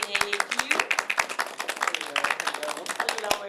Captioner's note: applause